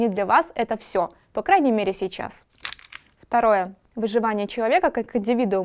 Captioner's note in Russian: звук перелистывания